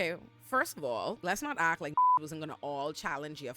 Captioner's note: beep